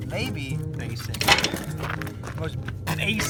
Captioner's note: wood clatters